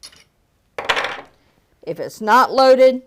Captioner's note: stick clunking